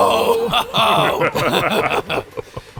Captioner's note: laughter